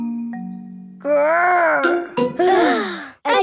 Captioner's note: growls; all sigh